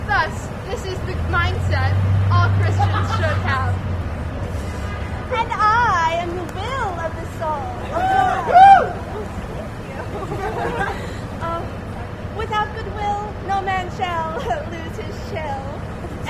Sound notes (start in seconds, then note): 7.8 audience shouts